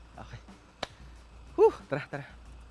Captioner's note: claps